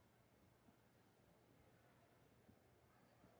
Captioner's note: none